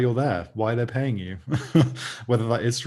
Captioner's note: laughs